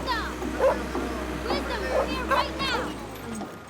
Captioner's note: dog barking